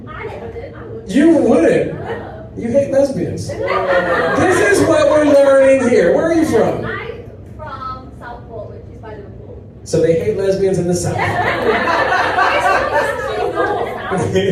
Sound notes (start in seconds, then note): 3.5 audience laughs; 11.1 audience laughs; 14.3 laughs